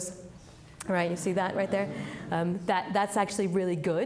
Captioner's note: audience laughing